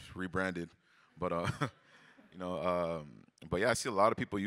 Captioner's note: chuckles